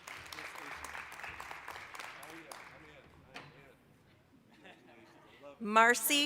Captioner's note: applause